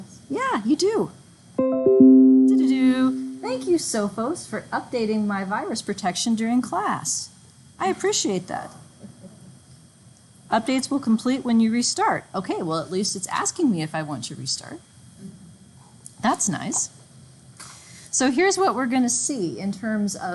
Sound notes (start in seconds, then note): 1.6 computer chiming; 1.7 instructor copying chime